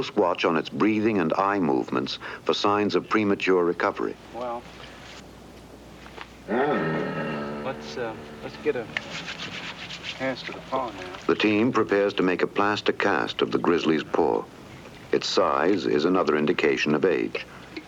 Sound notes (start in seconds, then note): 6.4 groans